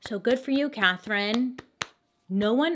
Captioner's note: clapping hands